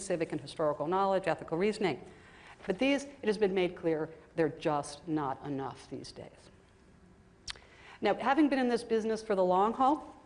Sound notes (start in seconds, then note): none